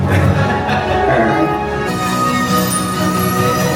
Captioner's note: Kristoff laughs; epic music